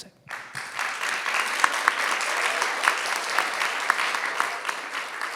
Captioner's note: people clapping